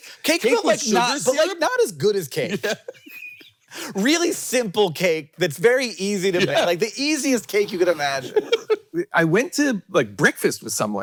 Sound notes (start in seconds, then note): 2.4 laughs; 7.5 Jason laughing